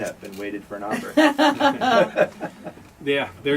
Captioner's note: laughing